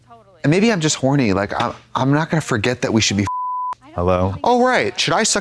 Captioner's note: beep